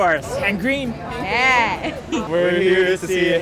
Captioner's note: chuckles